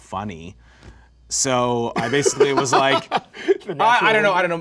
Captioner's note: man laughing